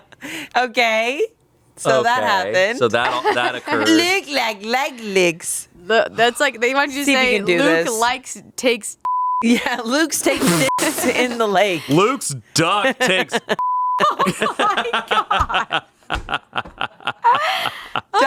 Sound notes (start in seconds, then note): 9.0 beep; 13.6 beep; 15.6 everyone laughs